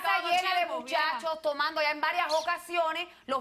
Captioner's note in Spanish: Hablan al unísono